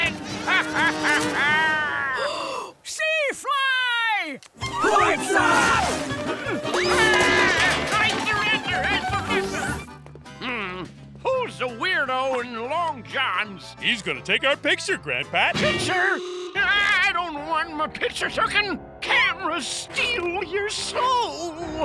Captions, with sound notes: [laughing] Sea Fly! Swats up! [screaming] I surrender! Mmm. Who's the weirdo in long johns? He's gonna take our picture, Gran Pat. Picture? I don't want my picture tookin'. Cameras steal your soul.